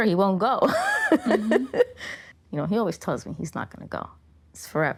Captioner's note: laughing